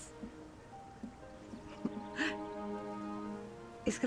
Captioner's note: sighs